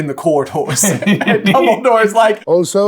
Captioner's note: chuckling